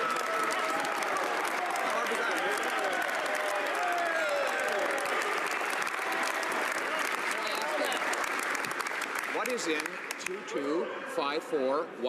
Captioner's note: some Applause